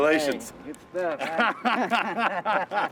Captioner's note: laughing